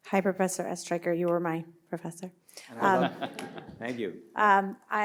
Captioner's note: listeners laugh